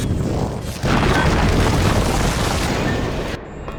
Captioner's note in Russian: гул останавливающей время энергии; грохот камней